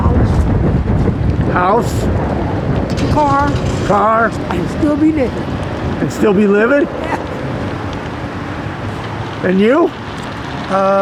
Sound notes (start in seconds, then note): 6.6 laughs